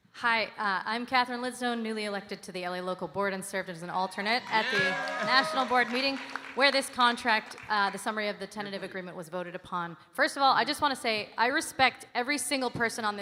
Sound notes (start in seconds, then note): 6.1 audience cheering and applauding